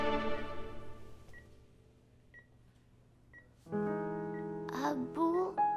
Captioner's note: Beeping sound